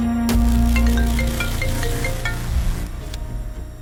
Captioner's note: cell phone rings